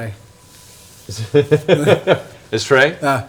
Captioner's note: laughs